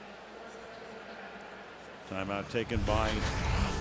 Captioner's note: pa announcement